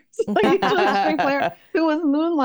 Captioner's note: laugh